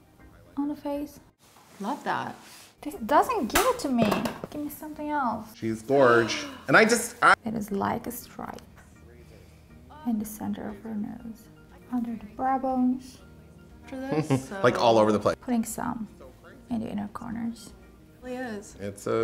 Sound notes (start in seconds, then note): 5.6 talking